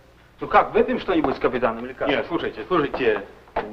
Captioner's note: foreign language